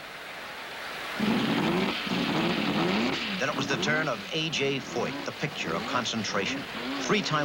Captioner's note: engine revving